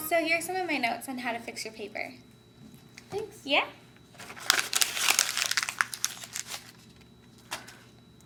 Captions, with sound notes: - So here's some of my notes on how to fix your paper. - Thanks. - Yeah. (paper scrunches)